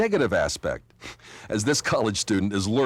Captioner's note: deep breath